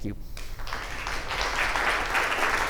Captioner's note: applause